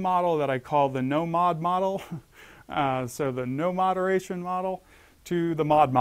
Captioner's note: laugh